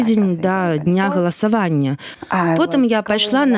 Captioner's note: clears throat